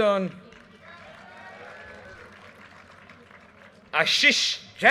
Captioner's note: audience cheers and applause